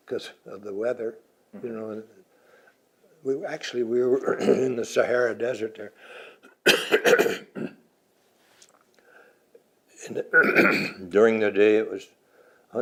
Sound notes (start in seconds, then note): 6.4 coughs; 6.7 clears throat; 10.3 clears throat